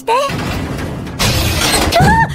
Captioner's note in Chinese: 關門聲